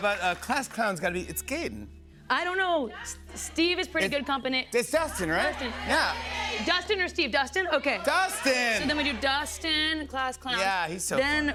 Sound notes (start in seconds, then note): 5.4 audience shouting